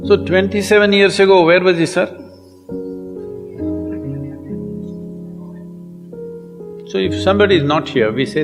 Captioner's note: laughter